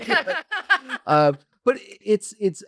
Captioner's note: laughs